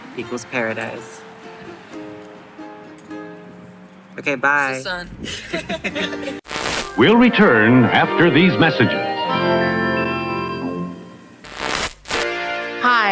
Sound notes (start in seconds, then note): 5.2 laughter; 12.0 jingle